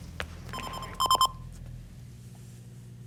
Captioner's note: ringing continues